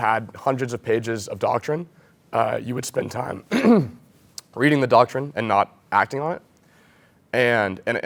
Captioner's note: cough